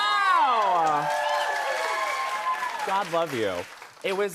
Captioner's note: cheers and applause